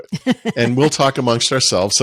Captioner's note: laughing